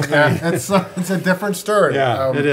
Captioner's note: group laughing